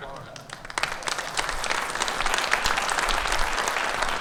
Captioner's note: audience clapping